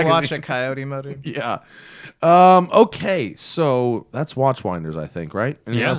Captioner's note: laughter